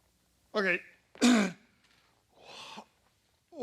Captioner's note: clears throat